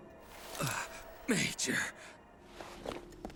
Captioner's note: grunts